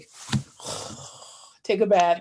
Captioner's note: exhales